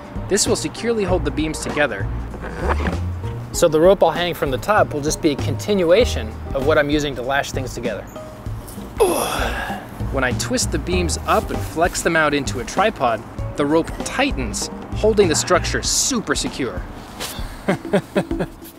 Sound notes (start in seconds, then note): 9.0 grunts; 17.4 chuckles